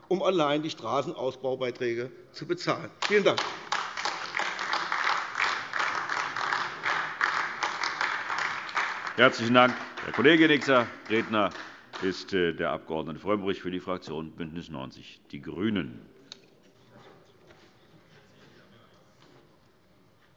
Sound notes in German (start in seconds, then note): 6.3 Beifall AfD